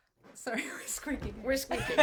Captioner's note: laughs loudly